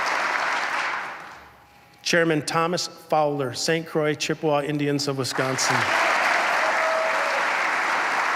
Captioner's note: applause